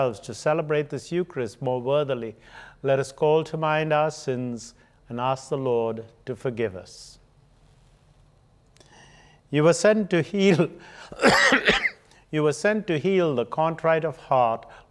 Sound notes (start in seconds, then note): 11.1 coughing